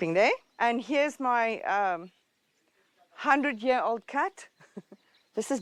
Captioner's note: laughs